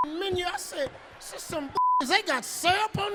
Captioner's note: beep; beep